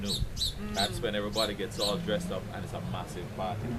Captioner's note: laughing